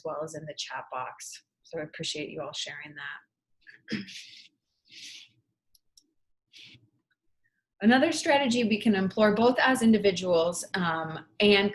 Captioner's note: clears throat